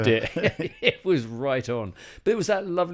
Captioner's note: laughs